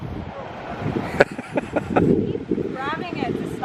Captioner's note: laughs